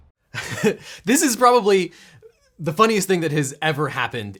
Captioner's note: dramatic percussion; laughs